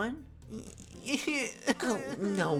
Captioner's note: crying